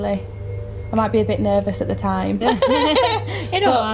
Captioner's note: laughter